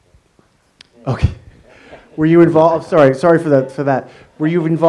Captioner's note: laughs